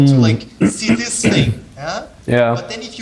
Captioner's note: clearing throat